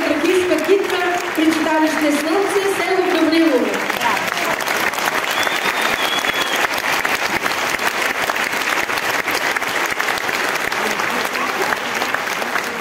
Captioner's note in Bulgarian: аплодисменти